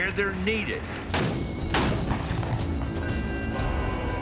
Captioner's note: gunfire